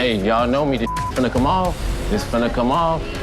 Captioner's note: beep